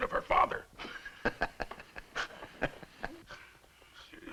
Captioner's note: laughing